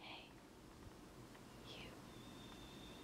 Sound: whispers

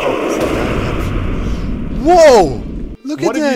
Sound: sfx: WOOSH, explosion

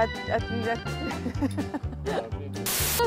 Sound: laugh

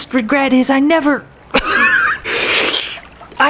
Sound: choke, wheeze

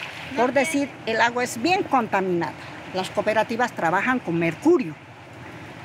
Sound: speaking in foreign language

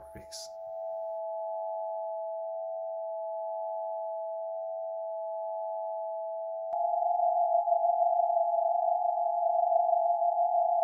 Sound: sonifications play

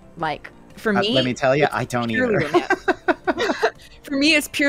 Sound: laughter

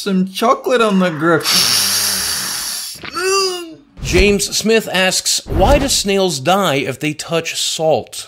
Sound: inhale sharply

